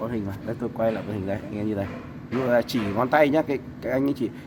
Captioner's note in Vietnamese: hắng giọng